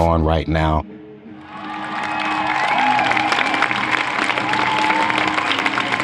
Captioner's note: applause